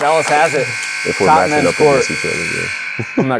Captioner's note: buzzer sounding